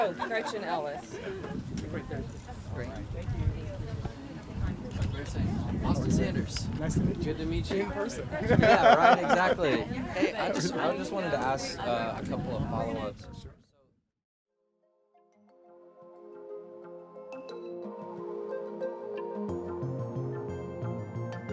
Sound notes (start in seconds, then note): 8.4 laughter